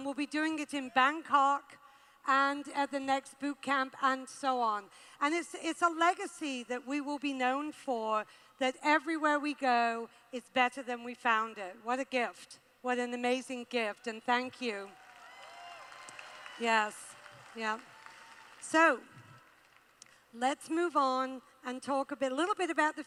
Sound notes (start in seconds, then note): 14.9 cheers